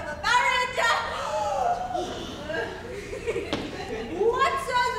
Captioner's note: group gasps